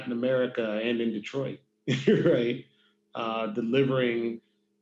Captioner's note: laughs